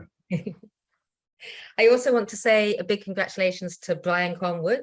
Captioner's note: chuckling